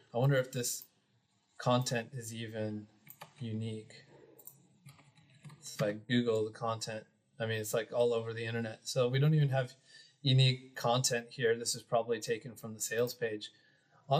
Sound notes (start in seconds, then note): 3.0 keyboard clicking